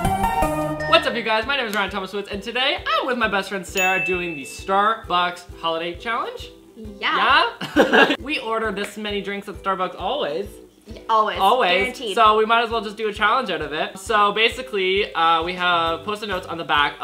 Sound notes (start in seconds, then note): 0.0 intro music; 7.6 laughs